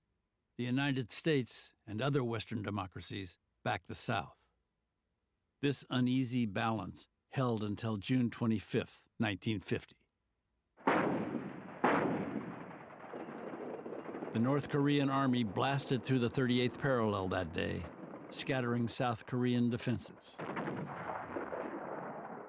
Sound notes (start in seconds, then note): 10.6 artillery fire; 20.2 artillery fire